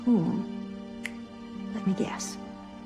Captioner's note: snaps fingers